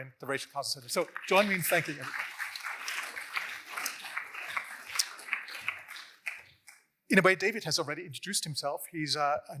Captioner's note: applause